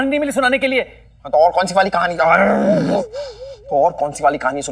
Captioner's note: Growling